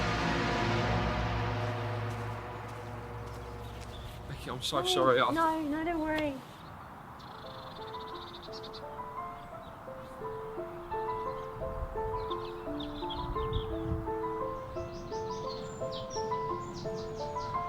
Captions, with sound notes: - Becky, I'm so sorry. - No, no, don't worry. (eerie piano music) (birds chirping)